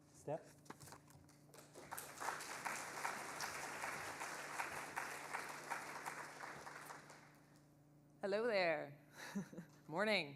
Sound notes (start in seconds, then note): 1.5 audience applauding; 9.2 chuckles